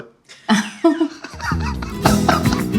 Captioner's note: chuckles; laughs